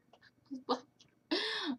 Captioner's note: laughter